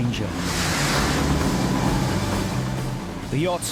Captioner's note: waves roar